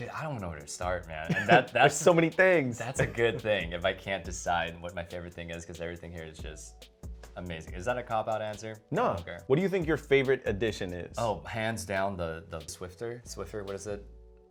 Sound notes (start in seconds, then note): 1.3 laughs